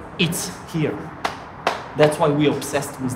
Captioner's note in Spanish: palmadas